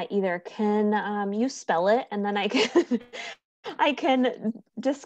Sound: chuckles

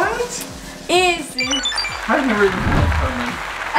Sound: high-pitched beeps

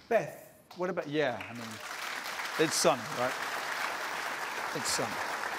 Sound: applause

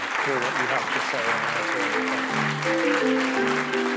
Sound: applause

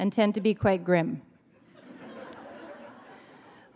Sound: laughter

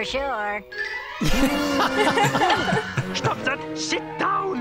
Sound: group laughs

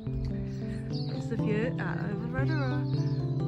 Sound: birdsong

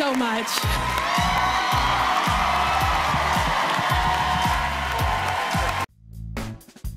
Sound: cheers and applause

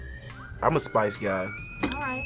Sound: teapot whistling

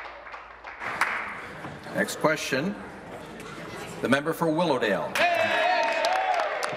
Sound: applause

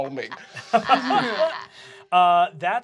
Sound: laughs; wheezes

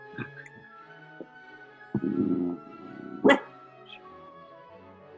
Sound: dog quietly growls and barks

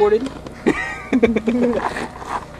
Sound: laugh

